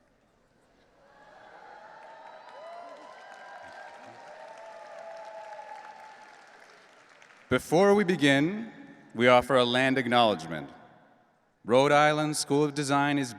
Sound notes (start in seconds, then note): 1.0 audience cheering and applauding